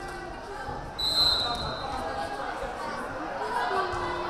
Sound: whistle blaring

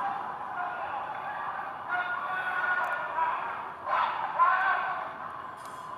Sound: muffled, distant chanting and shouting

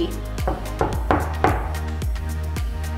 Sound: knocking

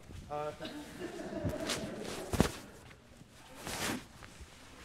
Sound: laughter

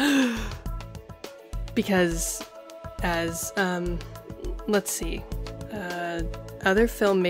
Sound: gasp

